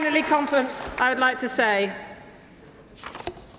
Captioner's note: applause